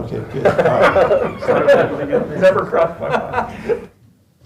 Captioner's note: laughter